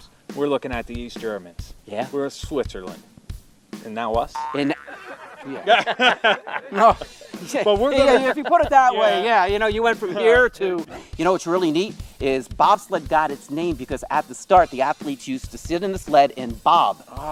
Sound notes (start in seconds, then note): 4.3 boing sound effect; 4.4 laughing